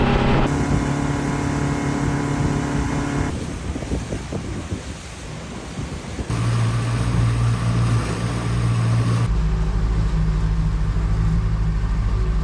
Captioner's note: engine singing